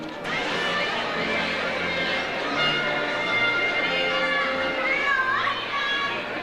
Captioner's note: slow baroque music; overlapping chatter